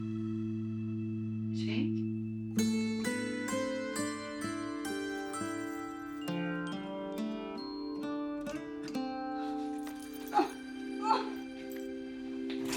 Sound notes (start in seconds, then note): 10.9 groaning